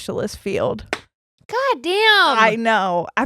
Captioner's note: slaps